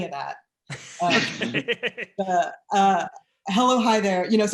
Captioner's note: laughing